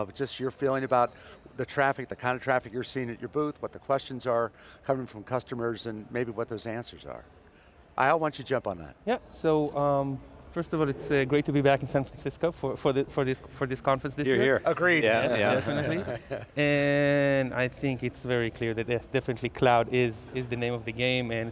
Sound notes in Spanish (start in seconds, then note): 15.1 Risas